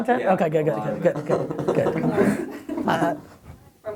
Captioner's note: everybody laughs